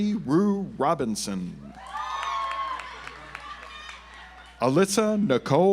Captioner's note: audience applauds